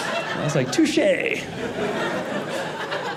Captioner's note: audience laughing